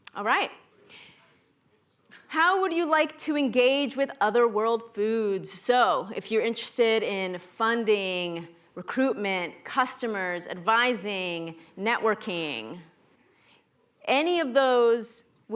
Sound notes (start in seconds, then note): none